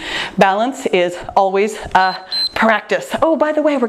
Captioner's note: timer beeps